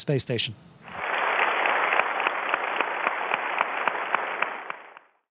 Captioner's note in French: Applaudissements